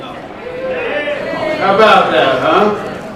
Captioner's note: crowd cheers